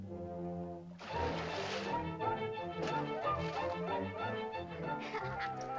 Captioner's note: whimsical music; intense whimsical music; water splashes; children laugh; soft music